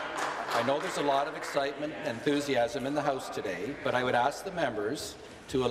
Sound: some applause

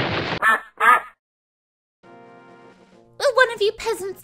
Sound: loud explosion; duck quacks

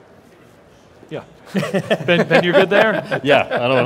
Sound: laughs

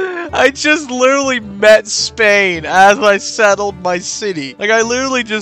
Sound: laughing In Funny Coincidence

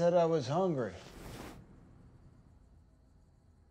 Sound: arm swishing

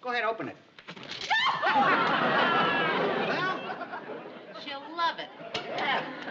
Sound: scream

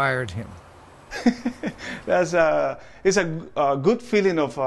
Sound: laughter

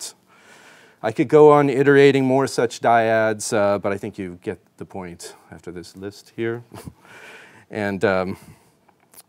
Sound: chuckles

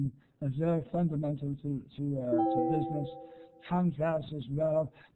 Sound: chimes

